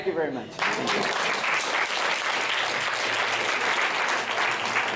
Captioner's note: applause